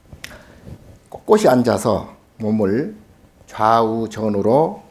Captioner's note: speaking Korean